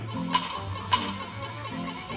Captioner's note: rock clacks